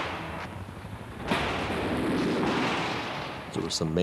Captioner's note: gunfire continues